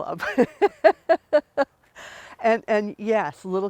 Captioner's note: laughing